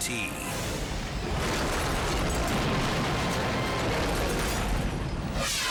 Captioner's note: highway crashing; scene swooshing